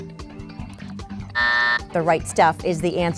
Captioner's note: buzzer sounds